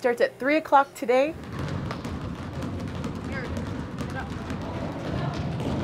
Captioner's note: sound of dribbling basketballs